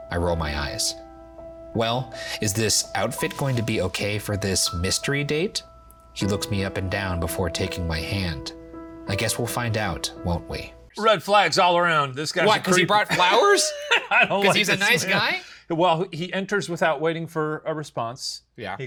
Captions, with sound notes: I roll my eyes. "Well, is this outfit going to be okay for this mystery date?" He looks me up and down before taking my hand. "I guess we'll find out, won't we?" - Red flags all around, this guy- - Why because he brought flowers? (laughs) Because he's a nice guy? - Well, he enters without waiting for a response.